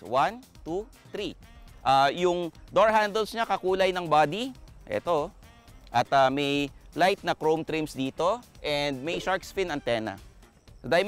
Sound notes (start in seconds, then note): none